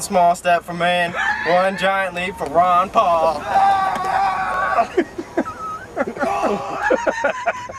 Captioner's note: laughter